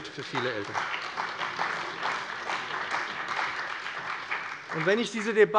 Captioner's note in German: Beifall bei dem BÜNDNIS 90/DIE GRÜNEN und der CDU